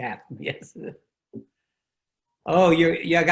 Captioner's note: laughs